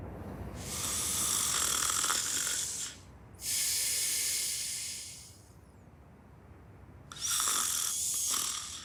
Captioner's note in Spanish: Ronquidos